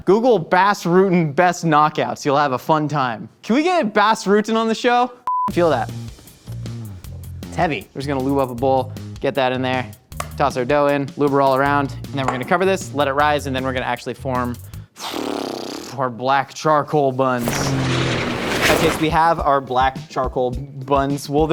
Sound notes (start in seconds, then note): 5.3 high pitched beep; 14.8 blows air; 17.4 plane revving